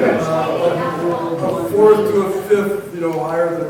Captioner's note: crowd laughing; woman mumbling